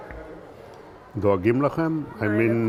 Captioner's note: hebrew